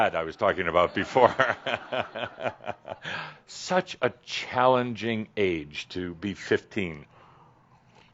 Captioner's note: Adamus chuckles and some audience laughter